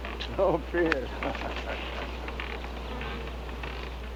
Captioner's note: laughing